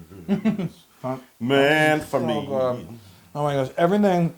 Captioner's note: laugh